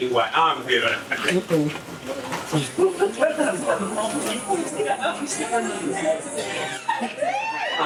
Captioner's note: audience laughing